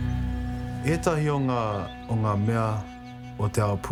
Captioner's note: speaks te reo māori